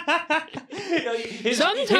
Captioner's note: both laughing